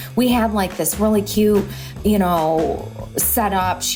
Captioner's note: none